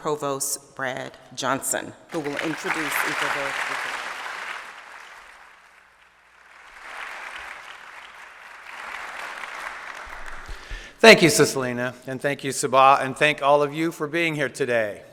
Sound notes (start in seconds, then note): 6.8 applause